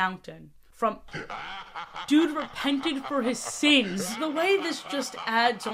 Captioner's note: background laugher as typhlosion fades in